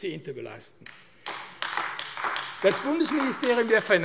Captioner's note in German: Beifall AfD